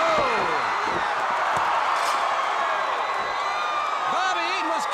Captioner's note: crowd cheering